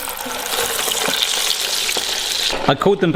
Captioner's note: oil popping